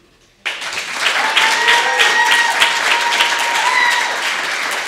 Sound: audience applauding

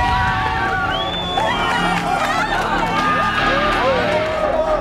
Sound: audience cheering

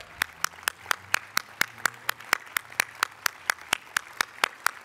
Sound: applause

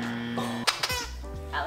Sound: squeaks

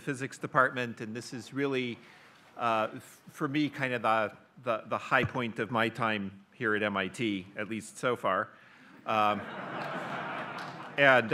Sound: audience laughs

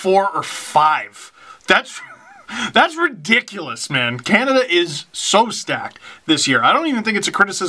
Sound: laughs

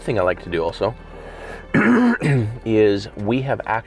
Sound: clearing his throat

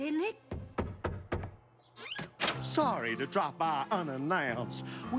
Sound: knock on door

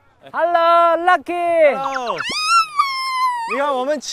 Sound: screams out of excitement

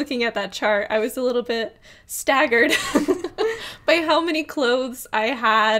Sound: laughs

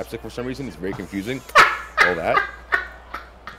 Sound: laugh

